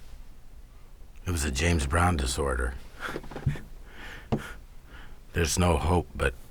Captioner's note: laughs